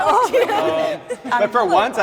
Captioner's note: group laughter